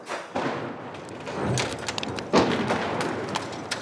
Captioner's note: metal clanging